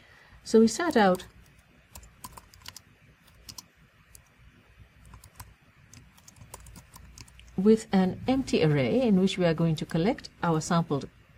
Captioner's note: pause